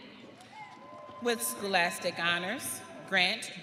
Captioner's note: audience cheering